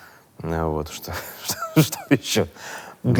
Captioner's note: laughs